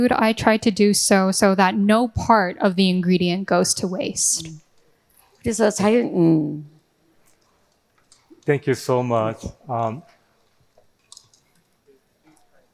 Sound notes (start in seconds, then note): 5.5 speaking in foreign language